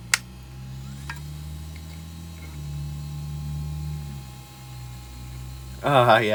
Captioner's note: drive spins up with car noises in the background; clack